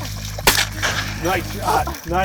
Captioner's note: gun fires